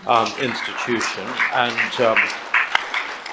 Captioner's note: audience applauds